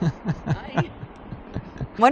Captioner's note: laugh